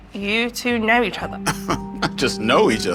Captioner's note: laughs